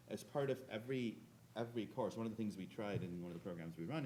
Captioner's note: none